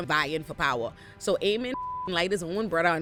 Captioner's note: beep